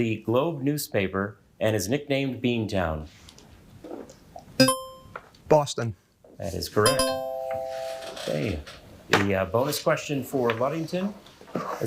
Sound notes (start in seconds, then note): 4.6 buzzer ringing; 6.8 bell ringing; 7.6 chair creaking